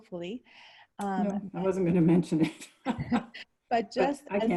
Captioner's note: chuckles